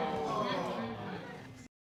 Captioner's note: audience groaning